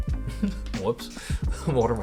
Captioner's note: chuckles